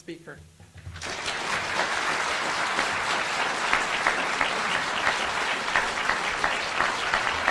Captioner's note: audience applauding